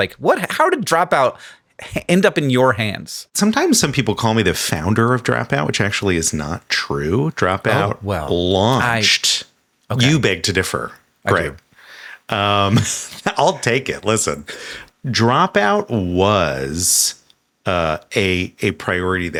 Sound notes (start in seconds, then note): 12.5 chuckles